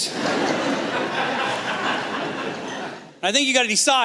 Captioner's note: laughter